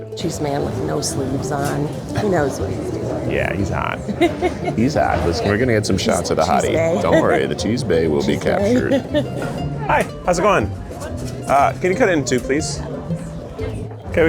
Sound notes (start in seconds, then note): 3.8 laughs; 6.8 laughs; 9.0 laughs